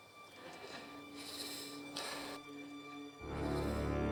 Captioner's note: laboured breaths; tense music